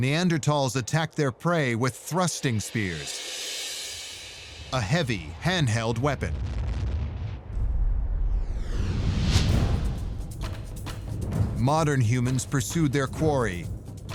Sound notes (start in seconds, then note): 5.9 deep rumble; 8.8 tense adventure music